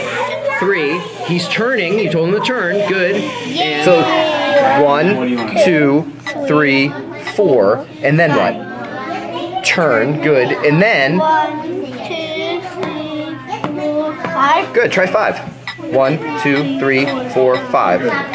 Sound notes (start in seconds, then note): 2.6 children cheering